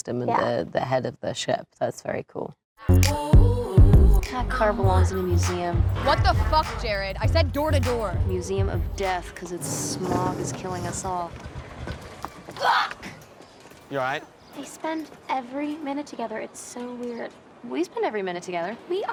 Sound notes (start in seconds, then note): 2.8 upbeat pop music; 12.8 shouting